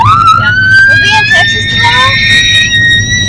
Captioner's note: squeals in excitement; squealing intensifies; and continues squealing